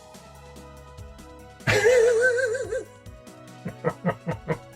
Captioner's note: laughing